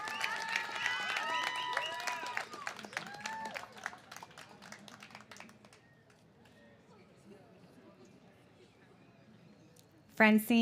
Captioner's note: cheers and applause